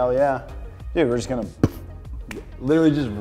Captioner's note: makes a bop sound